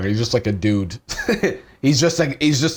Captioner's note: chuckles